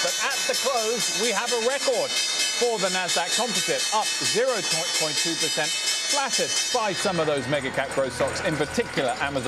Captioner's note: bell ringing